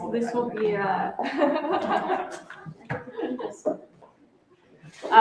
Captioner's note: laughter